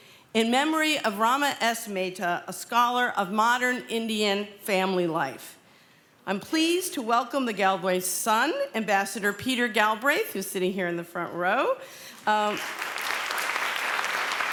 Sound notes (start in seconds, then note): 12.2 applause